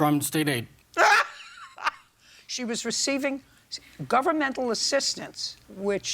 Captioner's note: laughs